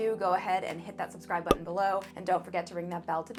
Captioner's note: button popping